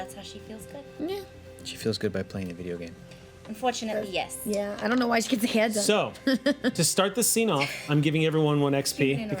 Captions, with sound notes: that's how she feels good. Yeah. She feels good by playing a video game. Unfortunately yes. Yeah, I don't know why she gets her hair done. (laughing) So, to start this scene off, I'm giving everyone one XP,